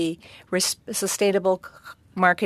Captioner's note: speaking French